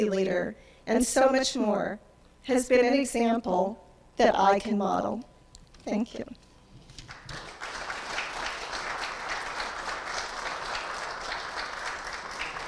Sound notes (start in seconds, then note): 7.0 audience applauding